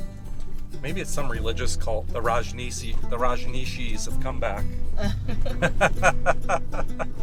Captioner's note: laughter